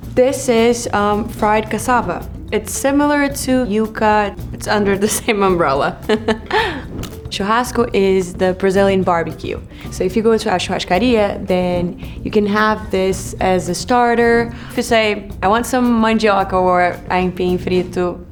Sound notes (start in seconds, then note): 6.0 laughs